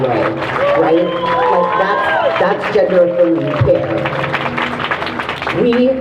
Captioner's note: crowd cheering